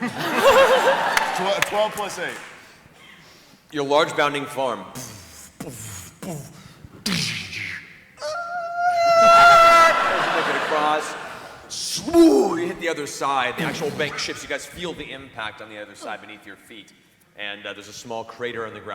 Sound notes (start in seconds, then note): 6.1 heavy footsteps, impact, scream